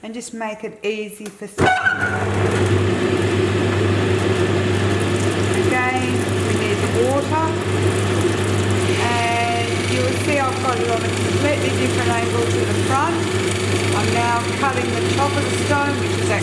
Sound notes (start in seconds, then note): 1.7 machine whirring; 7.7 water trickling